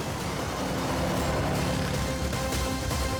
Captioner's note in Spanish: ruido de la motocicleta